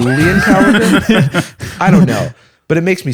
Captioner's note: laughter